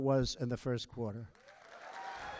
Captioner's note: applause